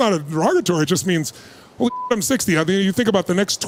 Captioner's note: beep